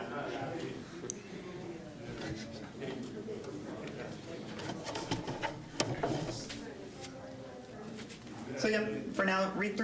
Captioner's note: general chatter